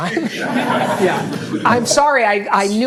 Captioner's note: audience laughing